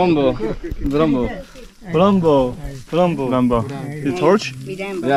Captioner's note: in Matsés